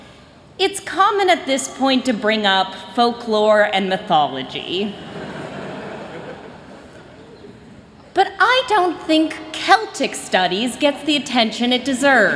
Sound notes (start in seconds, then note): 5.1 chuckling